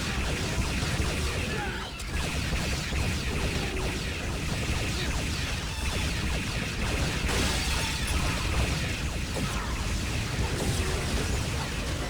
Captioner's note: gunfire